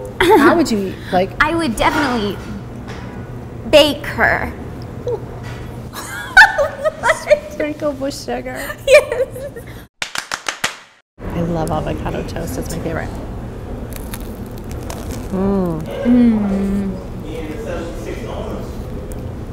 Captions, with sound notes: H ow would you eat -- I would definitely bake her. --WHAT? [laughs] --Sprinkled with sugar. --[claps] --I love avocado toast it's my favorite. --Mmm.